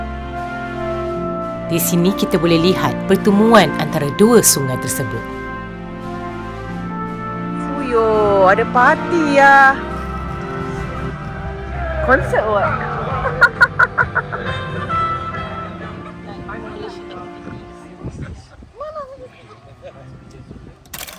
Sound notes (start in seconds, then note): 13.2 laugh; 16.3 speaking German